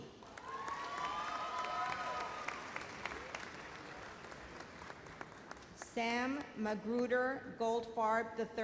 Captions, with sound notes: (audience cheers and applauds) Sam Magruder Goldfarb, III.